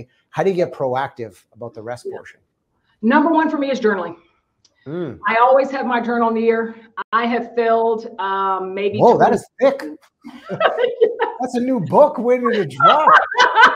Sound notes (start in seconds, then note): 10.3 laughing